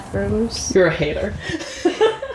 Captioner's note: laughs